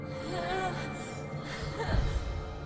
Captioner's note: gasping